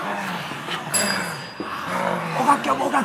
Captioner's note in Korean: 멀리서 울리는 종소리